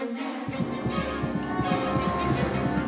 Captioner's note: heart beating rapidly